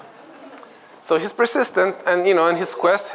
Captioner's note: laughter